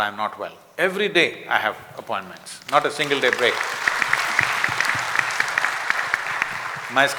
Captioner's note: applause